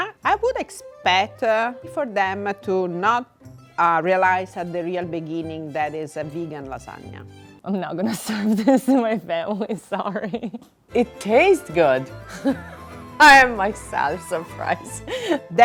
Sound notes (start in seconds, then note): 8.2 giggling; 12.1 laughing